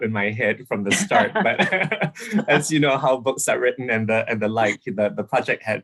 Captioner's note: laughs